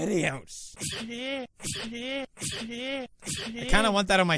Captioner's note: sneeze repeated over and over